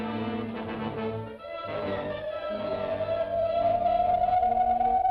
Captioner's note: dramatic music; electronic warbling